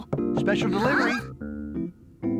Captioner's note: knocking